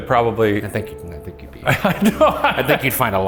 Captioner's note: laughs